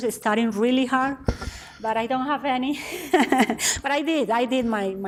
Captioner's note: laughs